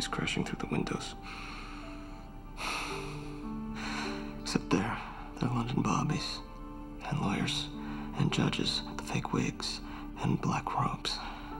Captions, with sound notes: crashing through the windows. (sighs) Except they're London bobbies, and lawyers, and judges with the fake wigs and black robes.